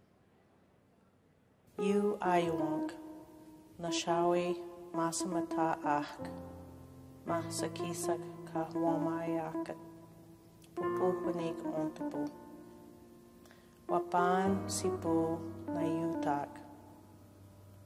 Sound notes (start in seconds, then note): 2.0 speaking in a foreign language